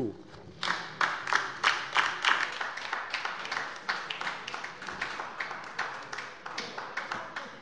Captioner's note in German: Beifall bei der LINKEN